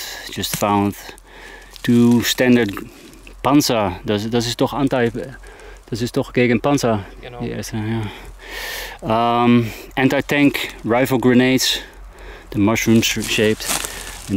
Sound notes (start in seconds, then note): 4.2 speaking in foreign language